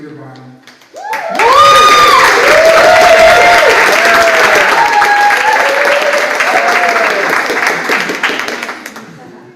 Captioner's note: applause